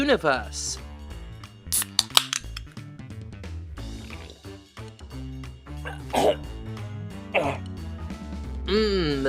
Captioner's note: slurp then cough